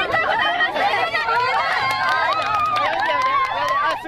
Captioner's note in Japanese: 拍手喝采